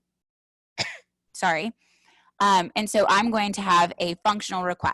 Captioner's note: coughs